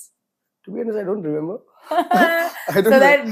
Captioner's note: laughs